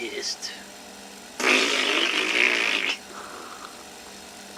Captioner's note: lip bubbles